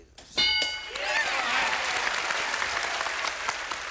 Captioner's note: bell; applause